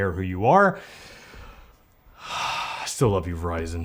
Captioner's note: dramatic breath